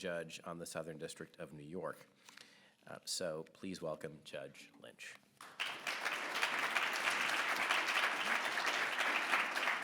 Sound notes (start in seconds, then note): 5.4 audience applause